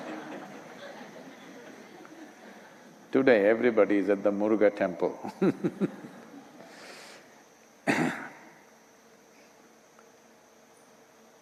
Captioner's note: laughter; laughs